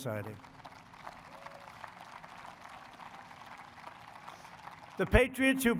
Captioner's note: applause